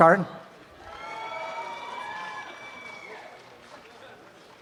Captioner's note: applause and cheering